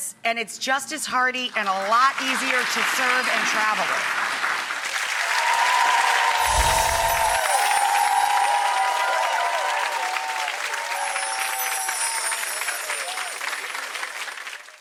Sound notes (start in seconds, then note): 5.2 audience applauding